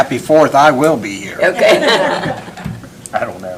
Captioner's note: laughter